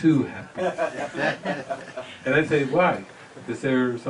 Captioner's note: audience laughter